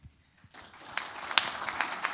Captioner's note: applause